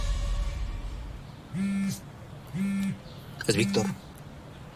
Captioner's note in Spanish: Vibra el celular